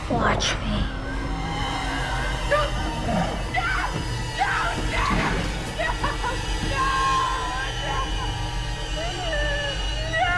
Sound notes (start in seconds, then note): 1.6 sinister music; 8.3 wails